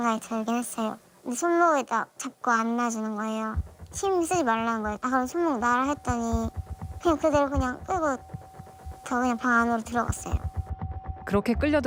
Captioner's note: voiceover